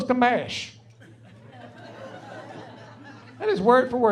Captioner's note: laughing